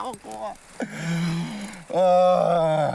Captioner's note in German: Er lacht hysterisch